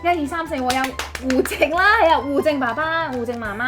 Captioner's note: applause